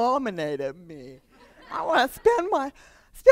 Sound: laughter

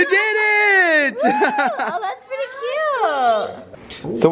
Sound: shouts

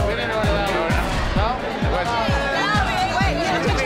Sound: indistinct chatter

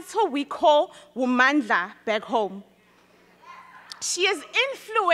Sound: speaks in foreign language

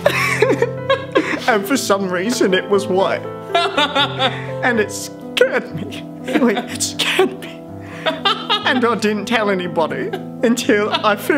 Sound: laughs again

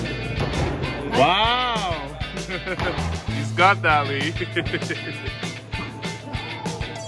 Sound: laughs

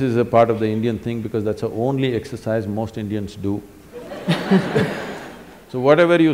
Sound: laughter

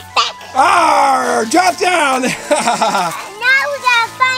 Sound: laughs

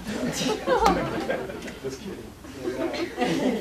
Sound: laughter

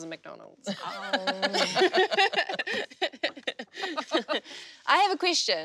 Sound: laugh

